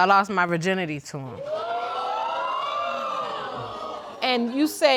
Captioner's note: audience exclaiming